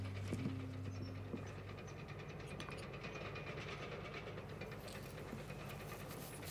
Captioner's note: distant Bulldozer